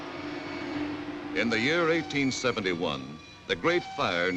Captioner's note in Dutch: alarms loeien